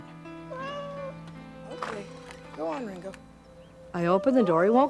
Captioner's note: cat meows